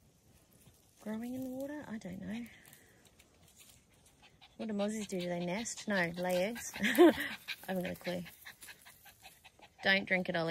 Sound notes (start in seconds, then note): 6.8 laughs at self